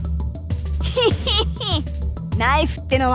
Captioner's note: triumphant snicker